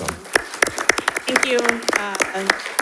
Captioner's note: audience applauding